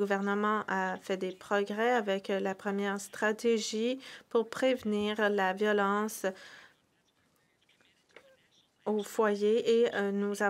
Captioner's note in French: voix de l'interprète